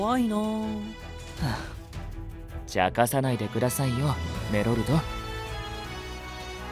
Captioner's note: sigh